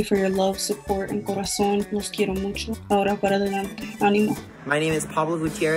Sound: speaks in foreign language

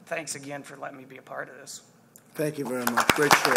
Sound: applause

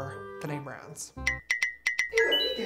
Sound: dinging

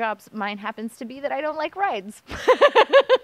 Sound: laughter

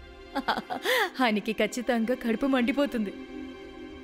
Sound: giggles

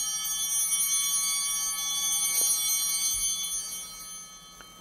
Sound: bell ringing; bell continues ringing

